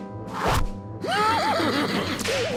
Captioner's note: laughs